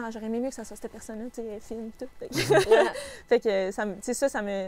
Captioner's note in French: rires